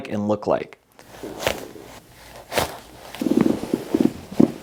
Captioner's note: joints pop